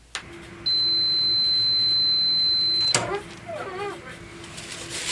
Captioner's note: machine whirs, then beeps